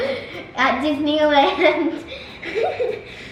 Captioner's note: laughs